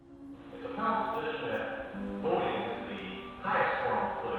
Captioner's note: faintly speaking